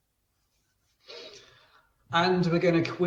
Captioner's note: sniffs